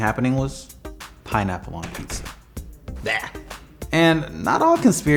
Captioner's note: groans